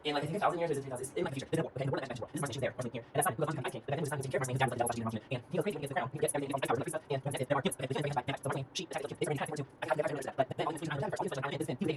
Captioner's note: super fast talking in chipmunk voice